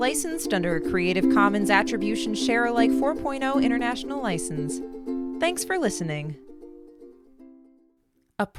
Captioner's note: SFX: logotone